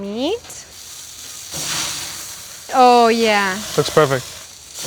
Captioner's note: sizzling